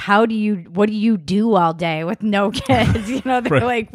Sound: laughs

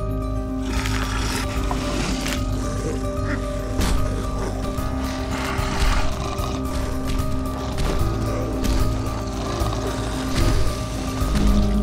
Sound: growling

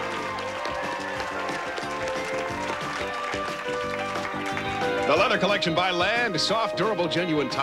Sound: audience applauding

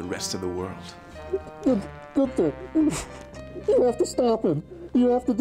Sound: crying

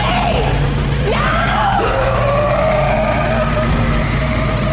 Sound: loud monster growling

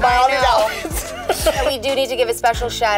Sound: laughing

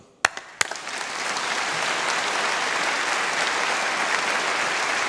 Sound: audience applauding

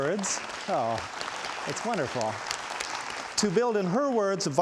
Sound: audience applauds

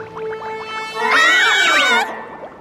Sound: screaming

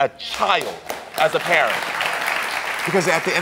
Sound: audience applauds

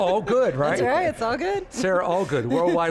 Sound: laughs

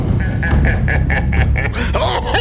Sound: cackling

